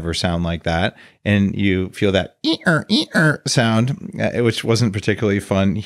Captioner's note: imitates squeaking